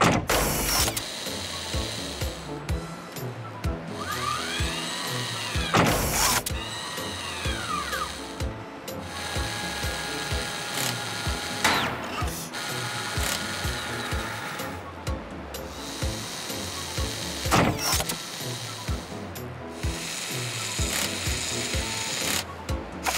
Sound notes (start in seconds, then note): 0.0 loud clunk; 5.7 loud clunk; 8.8 mechanical whirring; 17.5 loud clunk; 19.7 mechanical whirring